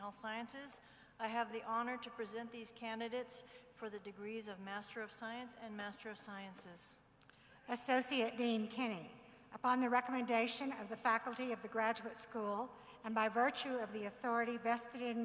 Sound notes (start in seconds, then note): none